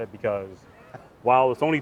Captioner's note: laughs